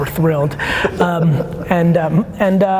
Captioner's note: laughing